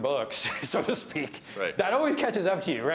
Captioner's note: laughs